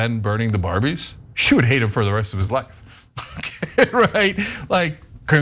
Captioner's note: laugh